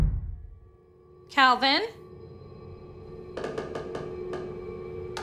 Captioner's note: knocking